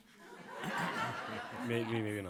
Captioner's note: audience laughs; laughs